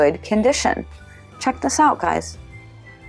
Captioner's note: gasp